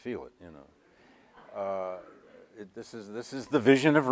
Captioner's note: audience laughs